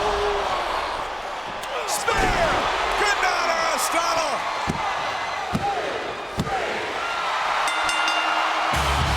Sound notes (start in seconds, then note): 2.9 audience cheers; 7.3 audience cheers; 7.6 bell rings; 8.7 dramatic music